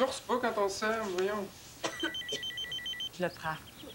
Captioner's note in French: Sonnerie de téléphone